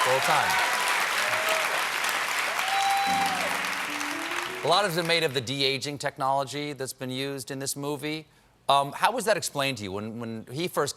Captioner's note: applause